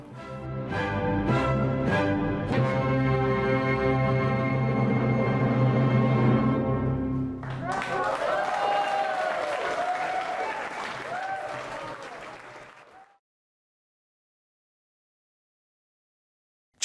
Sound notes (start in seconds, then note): 0.0 bold orchestra music plays; 7.4 audience applauds; 9.0 audience cheers